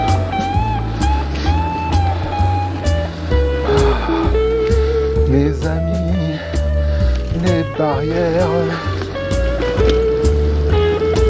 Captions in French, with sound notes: (chantonne) Mes amies… les barrières